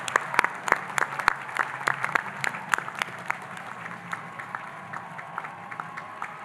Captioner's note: audience applauding and cheering